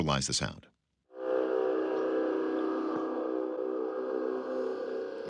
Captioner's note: horn-like sound